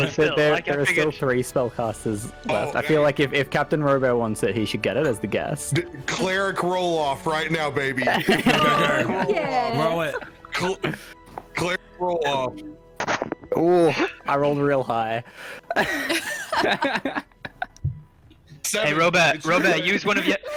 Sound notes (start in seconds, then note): 12.8 die clacks; 15.7 all laughter